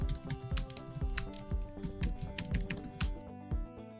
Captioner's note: keys clicking; happy electronic music